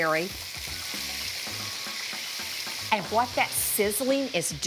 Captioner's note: food sizzling